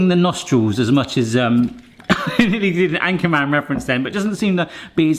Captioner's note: laughs